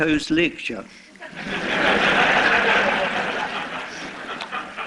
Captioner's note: laughter